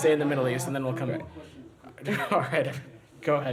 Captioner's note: laughter